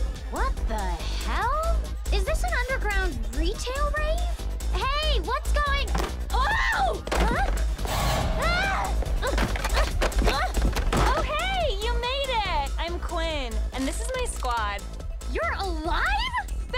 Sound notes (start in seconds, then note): 6.3 woman exclaims; 9.1 mannequins crash